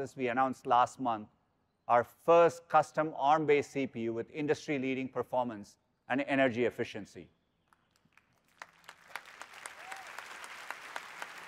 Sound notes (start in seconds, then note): 7.7 applause